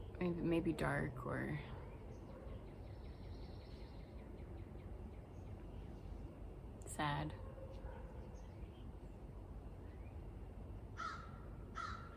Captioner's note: crow caws